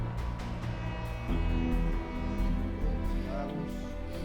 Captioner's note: horn fading